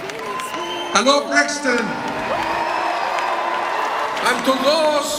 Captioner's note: crowd cheering